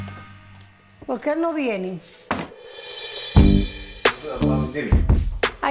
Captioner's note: speaking Spanish